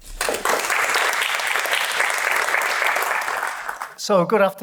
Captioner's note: applause